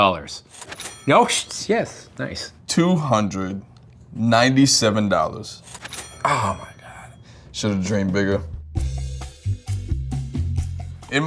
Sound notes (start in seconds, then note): 0.5 cash register dings; 5.6 cash register dings; 7.6 gentle rhythmic music